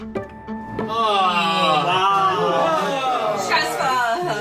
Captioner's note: sounds of despair